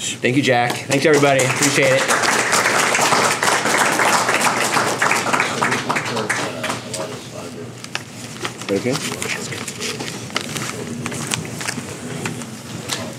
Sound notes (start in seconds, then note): 0.9 applause